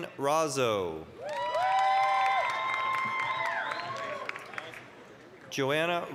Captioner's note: applause, cheering